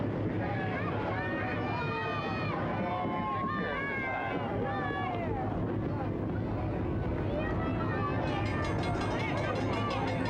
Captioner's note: people chattering